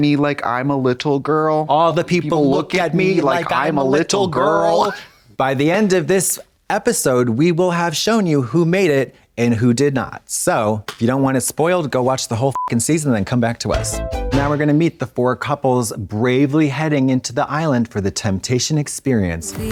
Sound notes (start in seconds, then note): 12.5 beep